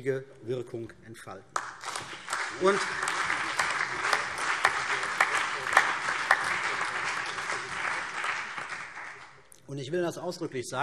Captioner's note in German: Beifall CDU und BÜNDNIS 90/DIE GRÜNEN